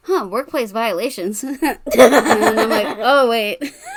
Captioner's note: laughs